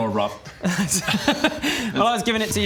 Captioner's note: indiscreet laughter